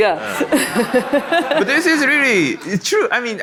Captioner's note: audience laughs